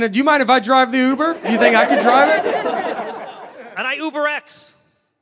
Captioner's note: crowd laughs